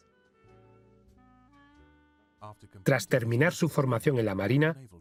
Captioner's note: voiceover